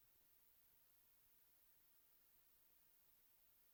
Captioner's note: none